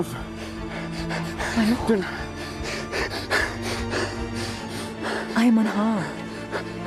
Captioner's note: Anthony breathes fast